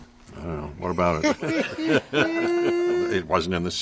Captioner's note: group laughs